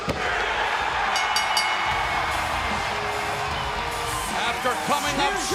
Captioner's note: bell ringing